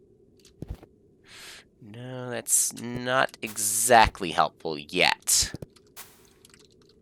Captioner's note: inhaling